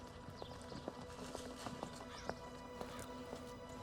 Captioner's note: footsteps tapping